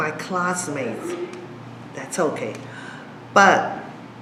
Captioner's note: noise at door